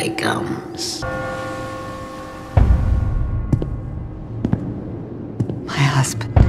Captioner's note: bell ringing; boots stomping slowly